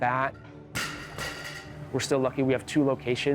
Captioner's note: clanging